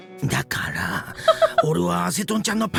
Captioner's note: chuckles